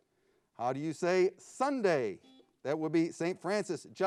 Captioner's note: buzzer beeps